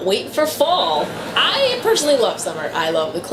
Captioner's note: audience laughter